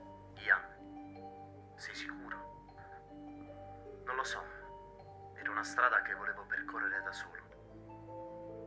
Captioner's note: Giulio on phone